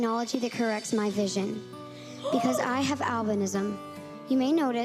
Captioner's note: gasp